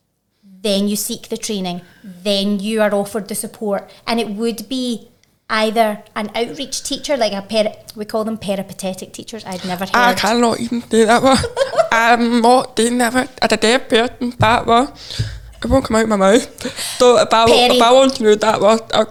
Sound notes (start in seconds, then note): 10.8 laughing